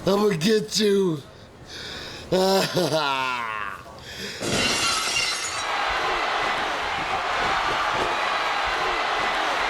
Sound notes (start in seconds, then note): 2.2 sobs; 4.4 glass shatters; 5.4 audience cheers